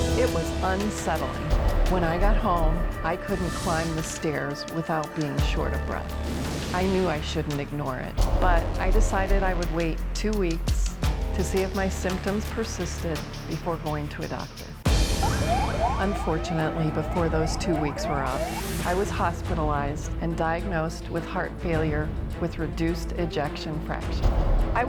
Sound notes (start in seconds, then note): 14.9 ambulance siren